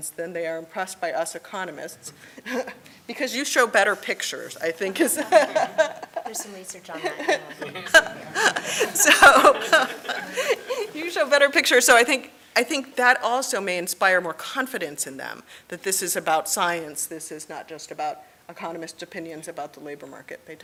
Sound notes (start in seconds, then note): 5.8 laughs; 6.9 audience laughing